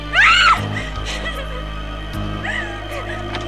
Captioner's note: scream; whimpering